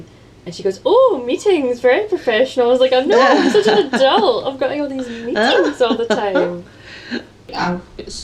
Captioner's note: laughter